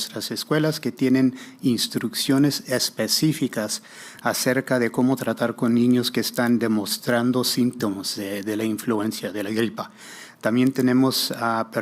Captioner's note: spanish